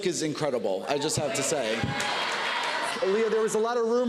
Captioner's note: laughter and cheers